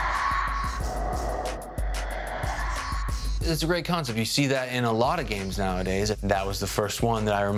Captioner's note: whooshing